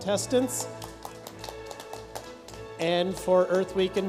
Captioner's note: light applause